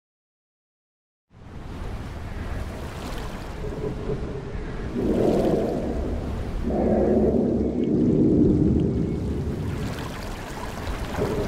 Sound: sound of witch forest

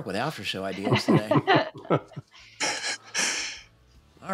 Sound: laughter

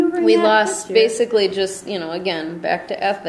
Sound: voiceover

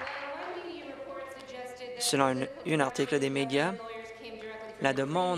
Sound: applause

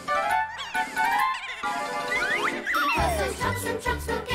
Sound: trucks laughing

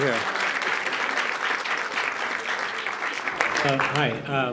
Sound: applause

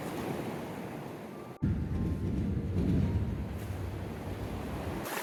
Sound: sounds of a train

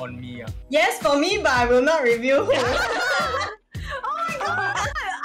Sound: laughing

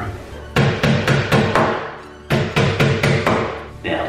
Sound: hammer pounding

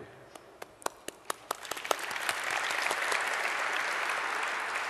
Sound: audience applause

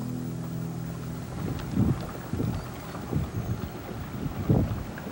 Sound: wind blowing

